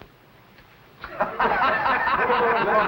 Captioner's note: laughter